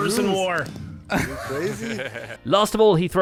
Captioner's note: all laugh